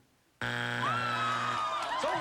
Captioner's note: buzzer